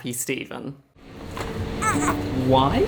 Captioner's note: baby stroller rolling